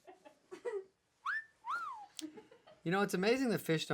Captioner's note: whistles